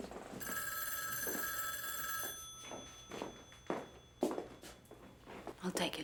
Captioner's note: phone rings; heels clack